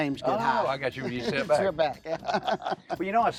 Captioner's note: laughter